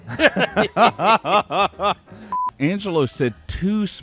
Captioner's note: both laugh